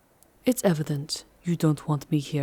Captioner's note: coldly